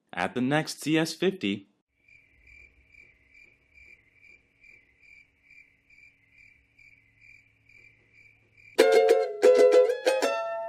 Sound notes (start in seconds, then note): 1.9 crickets chirping